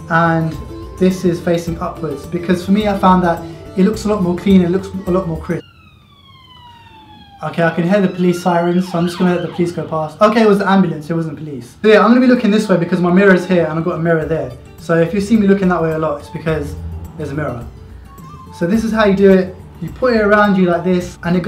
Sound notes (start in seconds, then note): 4.6 sirens